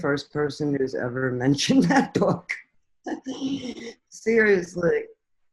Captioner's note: chuckles